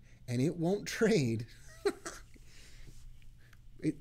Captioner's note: laughing